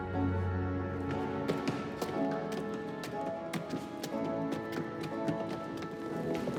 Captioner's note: somber music continues; boots thudding